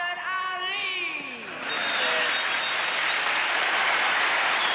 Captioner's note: cheering; bell rings